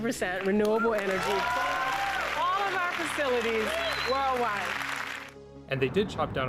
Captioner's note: clapping and cheering